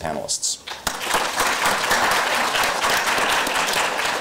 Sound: applause

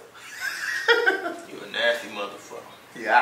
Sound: Kevin laughs

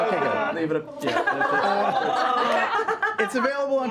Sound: laughter

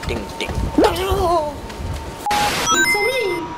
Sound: rumbling

